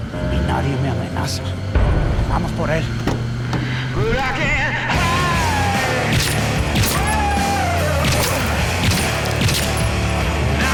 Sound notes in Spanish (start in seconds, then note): 0.0 Ruido del vehículo; 6.0 Disparos